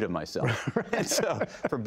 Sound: laughter

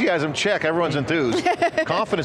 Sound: laughs

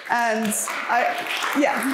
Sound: applauding

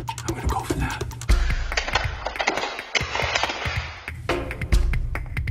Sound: loud clatters and clanks; suspense music

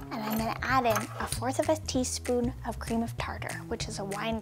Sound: none

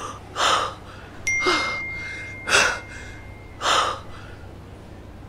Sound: phone pinging

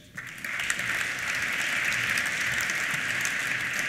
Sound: applause

